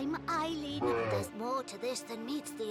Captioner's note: bruh sfx